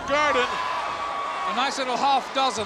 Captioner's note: audience cheers